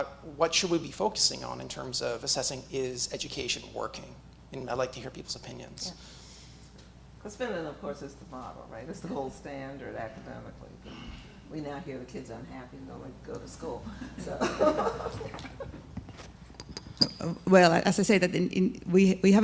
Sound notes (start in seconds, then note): 14.1 laughter